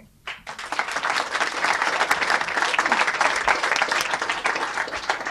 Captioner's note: applause